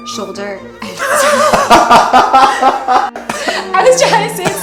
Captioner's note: laughing